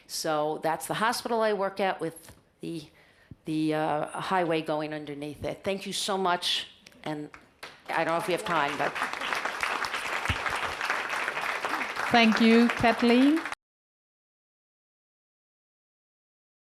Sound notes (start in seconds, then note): 7.6 audience applauds